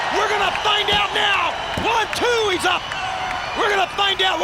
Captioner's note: countdown thudding